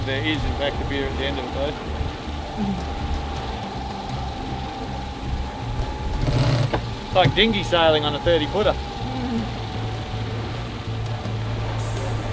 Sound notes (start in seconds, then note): 6.4 pulley clatters; 9.4 laughs